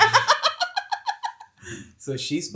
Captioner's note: laughing